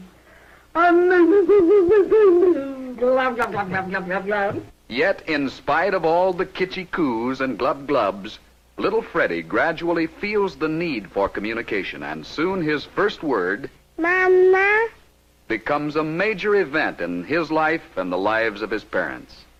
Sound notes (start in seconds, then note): 0.8 silly sounds; 2.9 stupid babbling